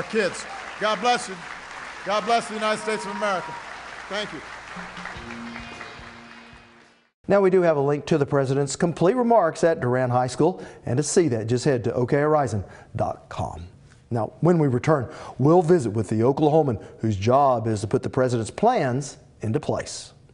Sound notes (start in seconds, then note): 6.0 applause